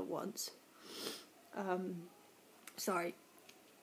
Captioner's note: sniffles